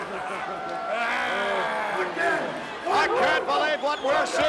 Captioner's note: Bundy laughs